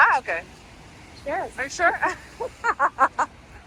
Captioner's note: laughter